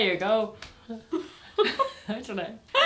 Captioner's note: laughter